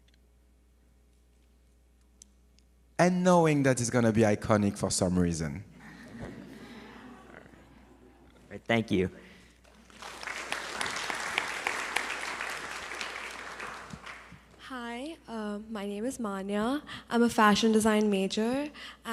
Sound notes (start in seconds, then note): 5.7 audience laughs; 9.6 audience applauds